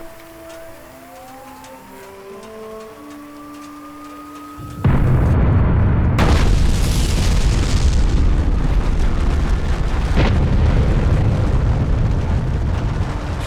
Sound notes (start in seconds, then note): 6.6 explosion